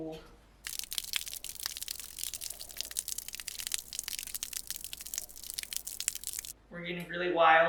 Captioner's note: liquid pouring sound effect